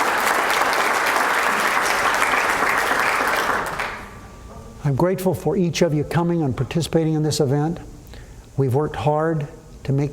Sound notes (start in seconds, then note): 2.7 applause